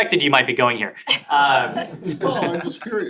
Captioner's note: laughter